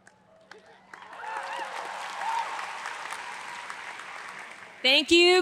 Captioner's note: audience applauds